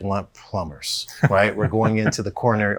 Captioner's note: laughs